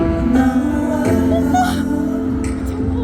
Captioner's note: tears; singing